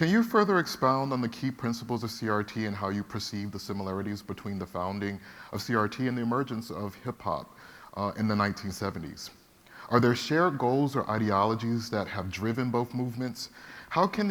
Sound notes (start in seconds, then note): none